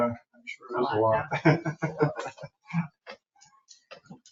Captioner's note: member laughs